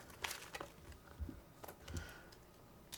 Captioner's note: none